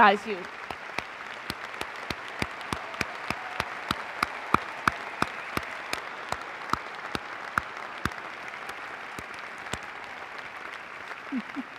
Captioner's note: applause